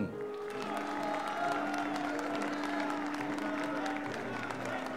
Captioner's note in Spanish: Vítores, aplausos